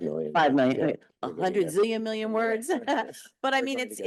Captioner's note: chuckles